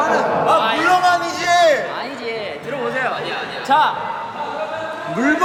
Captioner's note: berteriak lagi